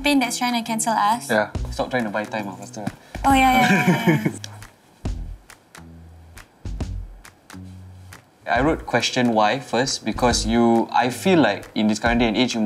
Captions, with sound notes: that’s trying to cancel us? Yah. Stop trying to buy time. Faster. Oh yah yah yah. (Laughs) I wrote “Question why?” first because I feel in this current day and age